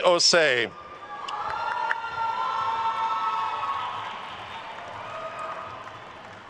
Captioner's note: attendees cheering and applauding